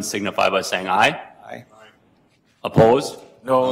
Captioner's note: multiple voices